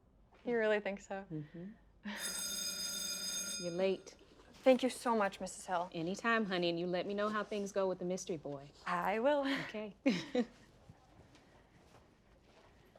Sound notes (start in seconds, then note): 2.1 bell rings; 10.0 both chuckle